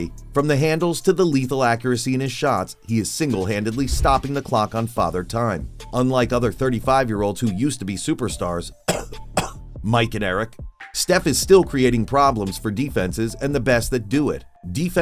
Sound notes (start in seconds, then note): 8.8 cough cough